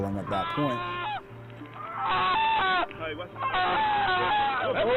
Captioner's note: man screaming